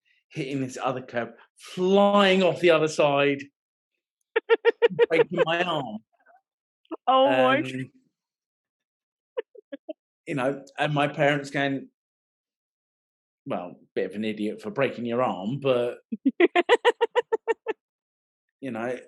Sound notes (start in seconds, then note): 4.4 laughing; 16.4 laughing